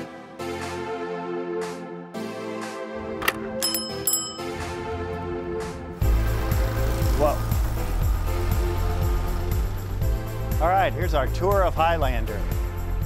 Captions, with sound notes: (upbeat music) (bell ringing) - All right, here's our tour of Highlander.